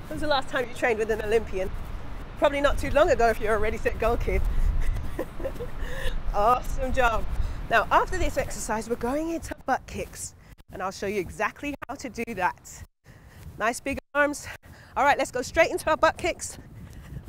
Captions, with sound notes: When's the last time you trained with an Olympian? Probably not too long ago if you area Ready, Set, Gold kid. (laughs) Awesome job. Now, after this exercise, we're going into our butt kicks and I'll show you exactly how to do that. Nice big arms. All right let's go straight into a butt kicks.